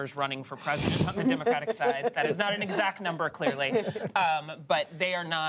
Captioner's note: laughter